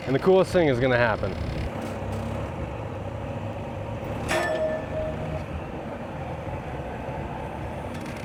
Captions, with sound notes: and the coolest thing is gonna happen. (metal clangs)